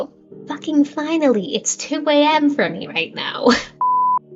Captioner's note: laughs